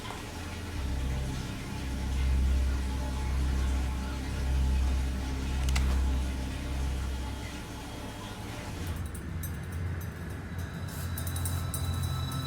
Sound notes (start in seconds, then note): 0.0 tense dramatic music; 5.6 gun cocking; 9.0 tense dramatic music